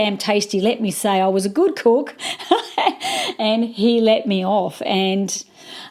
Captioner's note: laughs